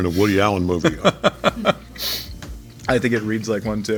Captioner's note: laughing